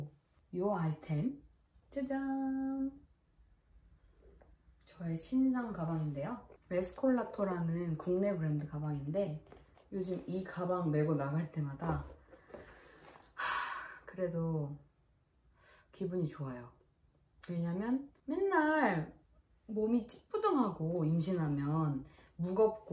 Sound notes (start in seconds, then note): 13.3 sigh